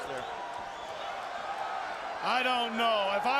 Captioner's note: crowd cheering